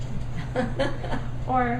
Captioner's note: laughs